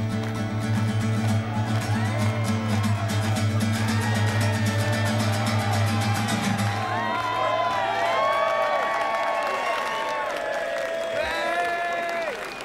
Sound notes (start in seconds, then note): 6.2 cheering